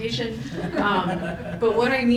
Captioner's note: audience chuckles